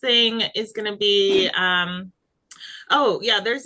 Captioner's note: graphic whooshing